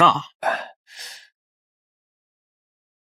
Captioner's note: sighs